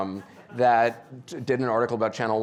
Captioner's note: audience laughing